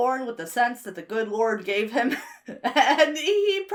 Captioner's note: laughs